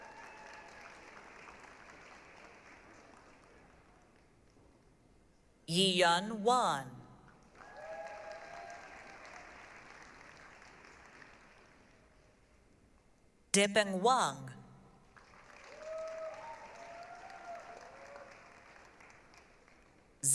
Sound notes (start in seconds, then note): 0.0 applause, cheering; 7.4 applause, cheering; 15.1 applause, cheering